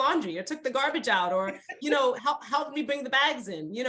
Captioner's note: laughs